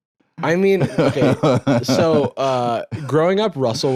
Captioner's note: laughs